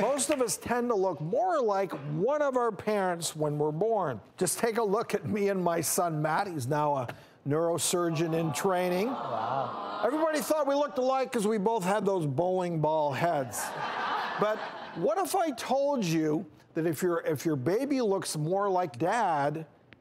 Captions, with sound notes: Most of us tend to look more like one of our parents when we're born. Just take a look at me and my son, Matt, who is now a neurosurgeon in training. Aw. Everybody thought we looked alike 'cause we both had those bowling ball heads. (audience laughs) But what if I told you that if you're baby looks more like dad,